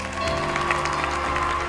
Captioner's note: cheering